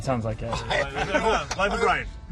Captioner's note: laughing